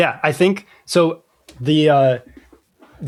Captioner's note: uh